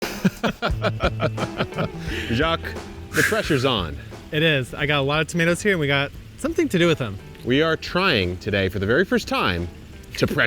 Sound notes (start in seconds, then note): 0.0 both laughing; 0.5 upbeat music; 3.1 exhales